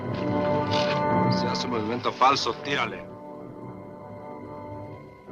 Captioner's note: suspenseful orchestral music; officer speaks Spanish